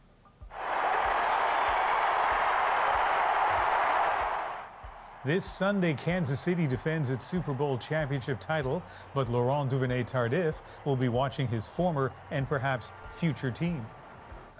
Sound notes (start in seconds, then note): 5.9 cheers and applause